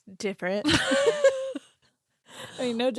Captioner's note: laughing